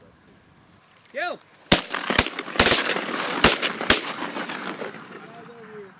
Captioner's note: gunshots